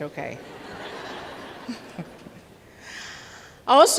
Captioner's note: laughter